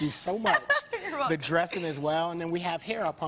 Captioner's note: laughing